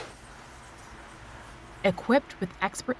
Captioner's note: none